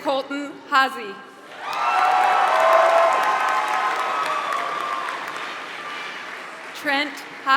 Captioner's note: applause